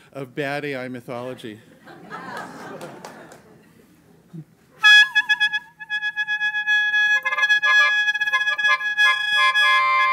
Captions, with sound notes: of bad A.I. mythology. (audience laughs) (upbeat squawking)